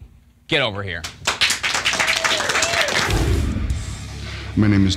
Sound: applause

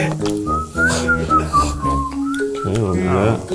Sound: whistling

